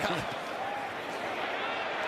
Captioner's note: chuckles